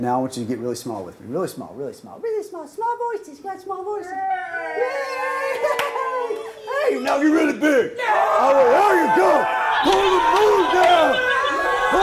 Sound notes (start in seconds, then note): 4.8 overlapping high-pitched talking